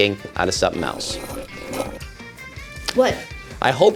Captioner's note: slurps